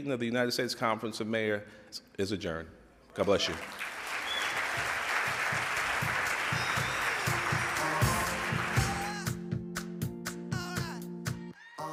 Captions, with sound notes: of the United States conference of mayors is adjourned. God bless you. (applause) (upbeat music)